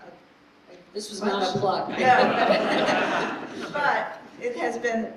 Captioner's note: laughter